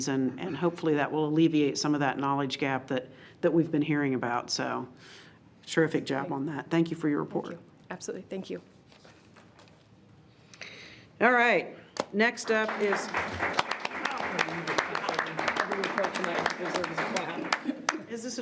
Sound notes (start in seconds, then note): 11.9 all clapping